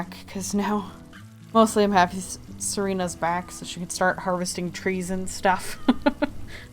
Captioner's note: laughs